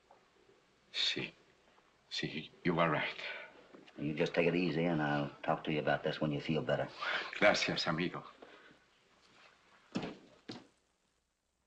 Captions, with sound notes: Yes, you were right. You just take it easy, I'll talk to you about this when you feel better. [ IN SPANISH ] Thank you, my friend.